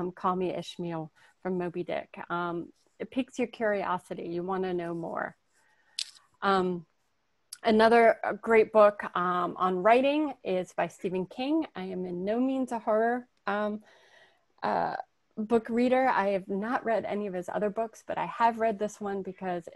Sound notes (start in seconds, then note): none